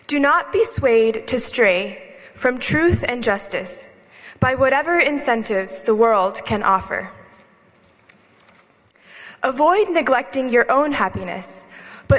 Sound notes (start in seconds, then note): none